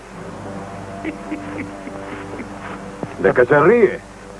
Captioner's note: giggles